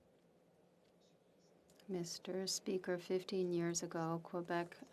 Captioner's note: speaking French